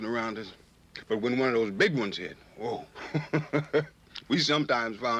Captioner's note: laughs